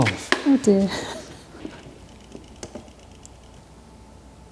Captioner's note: laughs